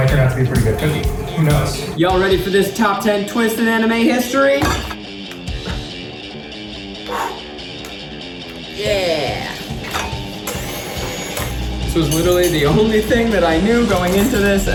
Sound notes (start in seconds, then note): 4.9 upbeat music playing; 9.9 upbeat music playing; 10.7 mixer runs